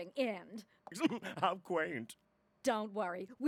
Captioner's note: posh accent